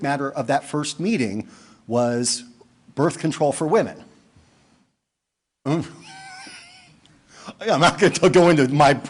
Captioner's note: laughing